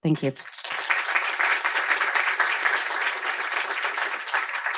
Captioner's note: applause